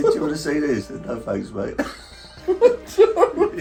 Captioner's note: both laughing